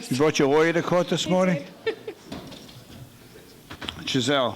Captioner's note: laughing